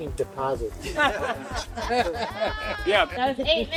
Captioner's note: laughing